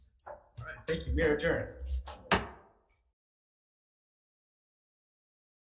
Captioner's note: gavel bangs